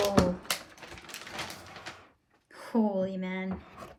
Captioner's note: crinkling